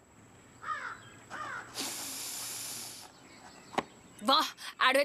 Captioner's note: sniffs